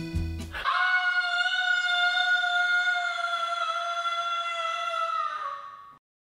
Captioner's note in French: Hurlement